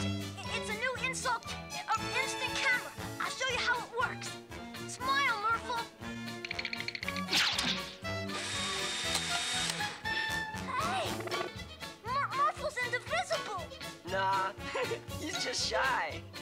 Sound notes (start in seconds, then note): 8.3 camera shutter clicks; 14.4 chuckles nervously